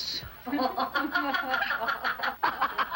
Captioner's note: laughing